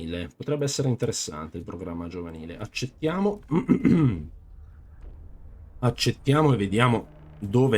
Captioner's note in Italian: schiarire la voce